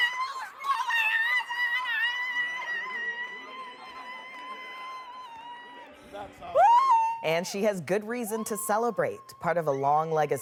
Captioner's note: screaming